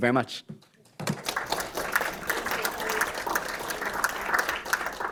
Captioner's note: audience clapping